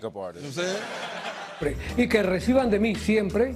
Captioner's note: speaking spanish